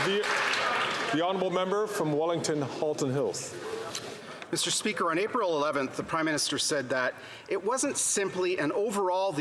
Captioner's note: some Applause